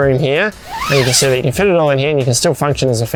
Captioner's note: unzips